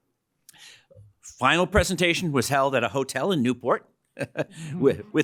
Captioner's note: laughs